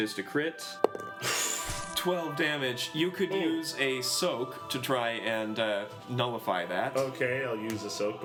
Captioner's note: sudden inhale